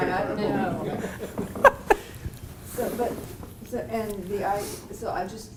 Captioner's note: laugh